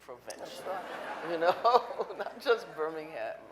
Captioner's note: audience laughing